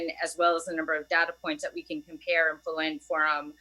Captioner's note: audio choppy